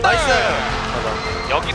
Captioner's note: BuZz